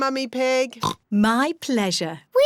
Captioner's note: oinks